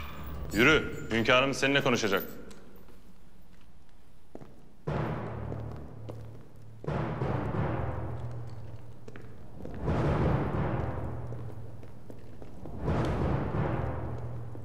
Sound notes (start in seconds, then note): 4.7 footsteps